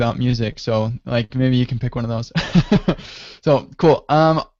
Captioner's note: laughs